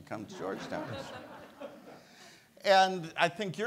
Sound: audience laughs

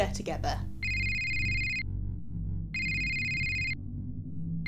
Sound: phone rings

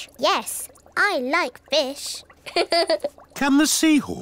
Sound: laughs

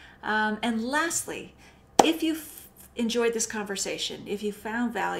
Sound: claps

